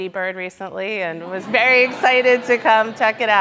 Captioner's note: audience laughing